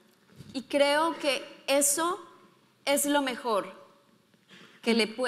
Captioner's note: speaking in foreign language